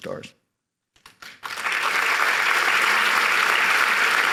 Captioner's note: applause